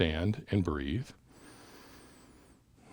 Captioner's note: breathes in; breathes out